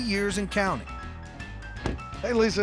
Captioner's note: door closes